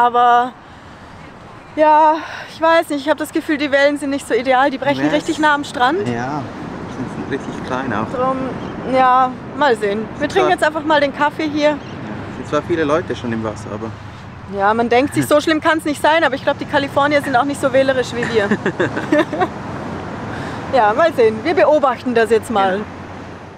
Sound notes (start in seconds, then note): 18.0 laughs